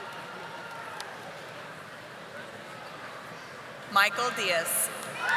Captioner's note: audience applauding